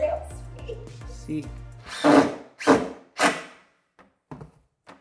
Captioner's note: machine whirs